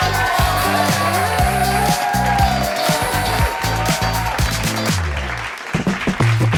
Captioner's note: applause